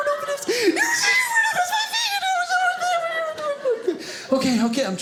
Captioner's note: screaming indistinctly